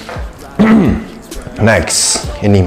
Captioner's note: clears throat